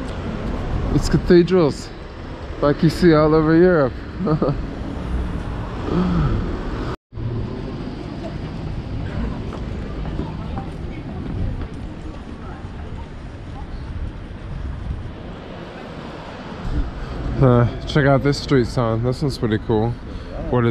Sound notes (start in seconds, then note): 3.5 laughs; 7.9 crowd chattering